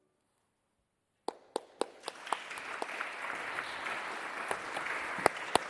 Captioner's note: audience applauding